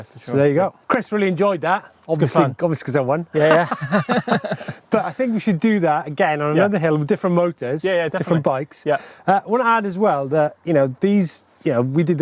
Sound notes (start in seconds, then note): 3.3 laughing